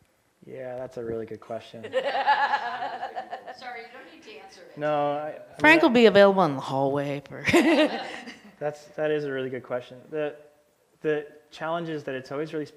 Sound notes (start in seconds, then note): 1.8 laughter; 7.5 laughs